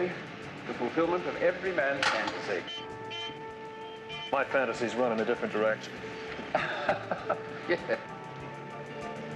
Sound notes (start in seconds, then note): 6.4 laughing